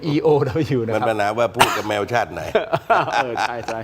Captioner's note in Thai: เสียงหัวเราะ